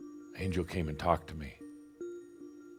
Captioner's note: none